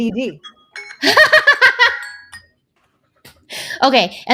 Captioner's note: laughs